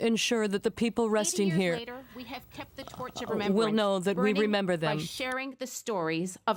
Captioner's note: speaking French